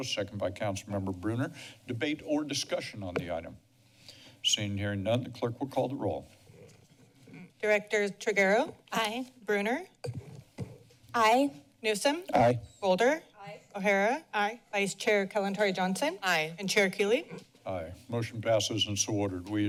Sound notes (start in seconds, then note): none